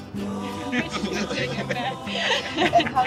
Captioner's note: laughter